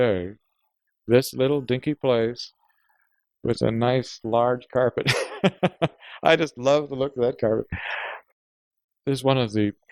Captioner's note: laughs